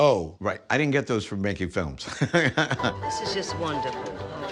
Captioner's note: laughs